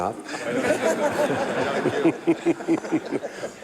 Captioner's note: laughter